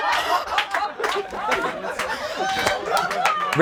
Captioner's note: laughing; clapping